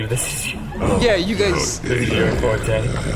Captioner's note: breaks off laughing